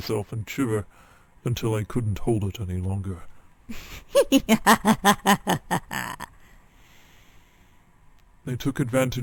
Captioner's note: laughter